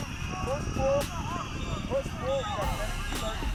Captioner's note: whistle blowing